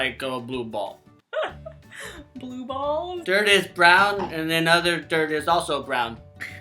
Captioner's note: laughing